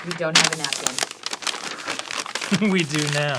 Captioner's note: loud paper crumples